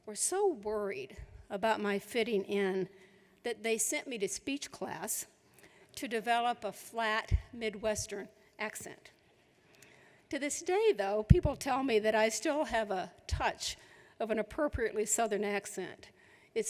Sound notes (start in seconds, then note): none